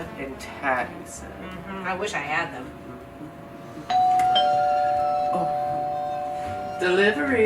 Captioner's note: doorbell rings